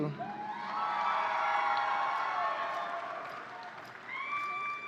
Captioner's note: audience cheering